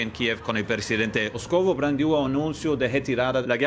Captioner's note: speaking Portuguese; speaking French